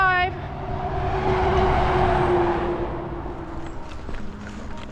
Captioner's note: traffic